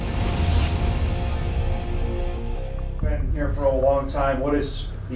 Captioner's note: dull booming